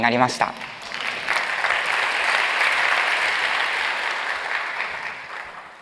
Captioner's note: applause